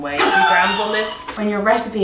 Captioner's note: laughing